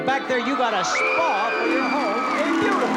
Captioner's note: loud cheering and applause